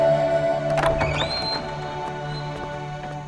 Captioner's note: Door opens